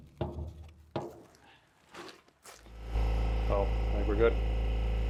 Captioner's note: gutter clattering